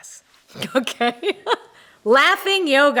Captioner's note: laughs